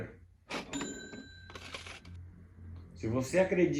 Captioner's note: cash register sound